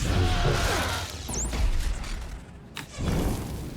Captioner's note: gunshots